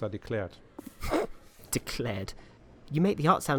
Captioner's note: laughing